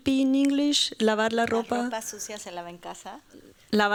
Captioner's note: speaking spanish